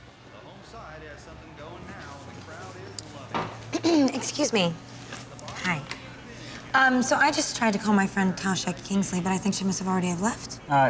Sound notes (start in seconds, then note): 3.7 clears throat